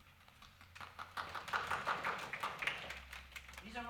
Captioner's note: clapping